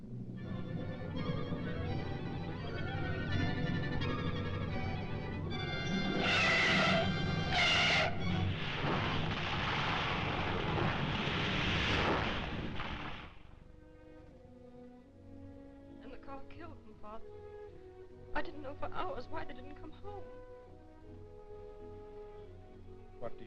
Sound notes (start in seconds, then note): 0.0 dramatic suspenseful music; 5.8 tires screeching; 8.5 car crashing; 13.9 somber music